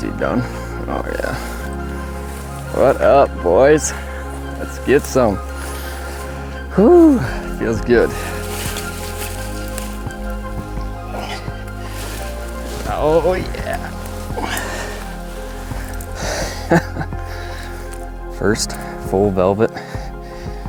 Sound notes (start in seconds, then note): 11.0 grunts; 16.0 chuckles